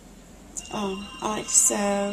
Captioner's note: phone ringing